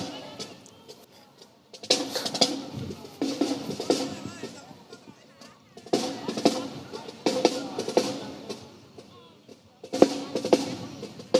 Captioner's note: snare and bass drumming continues; crowd chattering; snare and bass drumming continues